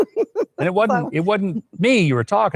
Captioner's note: laughing